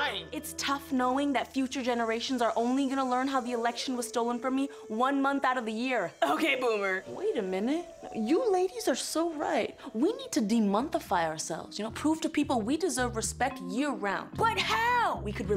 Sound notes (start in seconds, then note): none